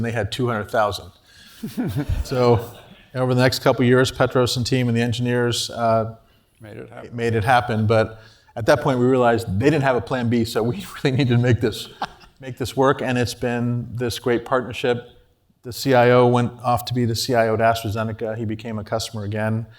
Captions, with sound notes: they had 200,000. >> [LAUGH] >> So over the next couple years, Petros and team and the engineers- >> Made it happen. >> Made it happen, but at that point, we realized they didn't have a plan b. [LAUGH] >> [LAUGH] >> So we really needed to make this work. And it's been this great partnership. The CIO went off to be the CIO he became a customer again.